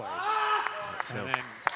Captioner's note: screaming